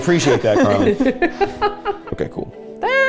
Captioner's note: laughs